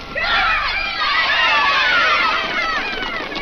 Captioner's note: kids yelling